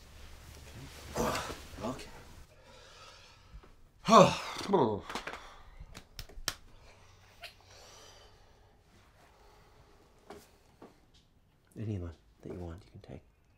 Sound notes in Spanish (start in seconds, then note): 1.0 quejido; 4.0 suspira fuertemente